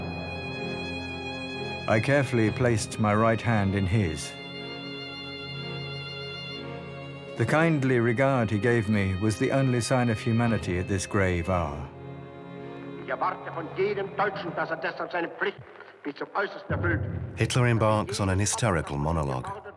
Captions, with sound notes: I carefully placed my right hand in his. The kindly regard he gave me was the only sign of humanity at this grave hour". [German spoken audio] Hitler embarks on a hysterical monologue.